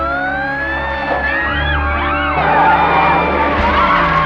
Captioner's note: screaming